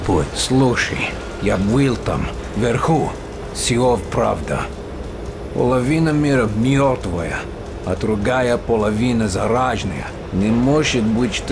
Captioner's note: in Russian